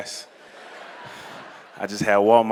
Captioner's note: laughter